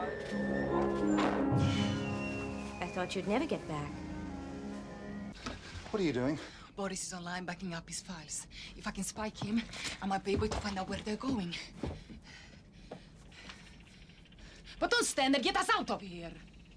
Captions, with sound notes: [Creak, thud] [Machine whirring] I thought you'd never get back. What are you doing? Boris is online, backing up his files. If I can spike him, I might be able to find out where they're going. [Heavy breathing] Well don't stand there; get us out of here!